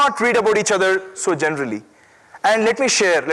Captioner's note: none